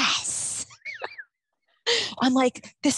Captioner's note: both laugh